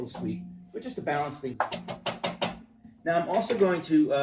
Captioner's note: banging